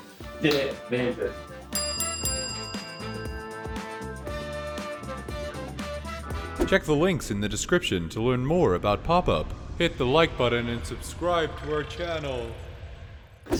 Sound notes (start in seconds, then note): 1.6 bell ringing; 3.4 upbeat playful music continues